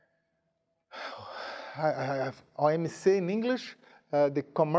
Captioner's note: speaking in a foreign language